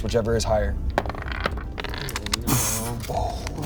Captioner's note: dice roll